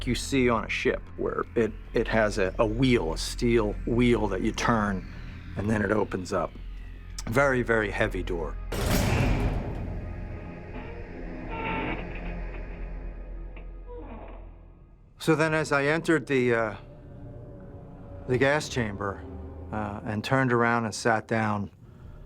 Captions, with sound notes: where it-- it has a wheel, a steel wheel that you turn, and then it opens up. A very, very heavy door. [door closes] [creaking] So then as I entered the-- the gas chamber and turned around and sat down